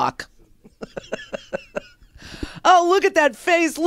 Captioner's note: laughs